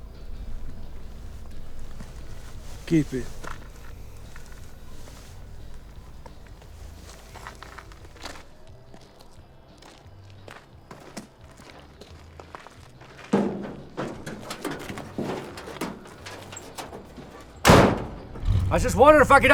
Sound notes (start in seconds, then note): 9.7 footsteps crunching; 10.4 truck door clanking; 18.3 engine rumbling; 18.3 truck door slamming shut